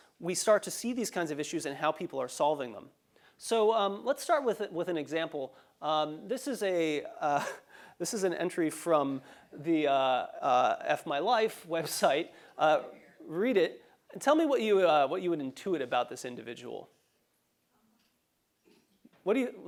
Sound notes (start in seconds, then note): 5.5 laugh